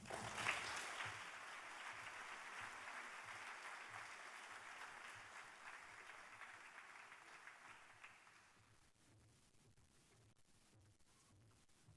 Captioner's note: applause